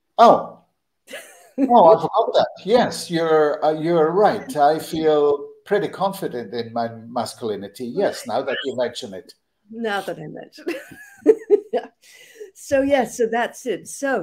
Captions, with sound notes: Oh! Oh, I forgot that! Yes. You're right. I feel pretty confident in my masculinity. Yes, now that you mention it. Now that I mention it. (Laughter) So. Yeah. So that's it.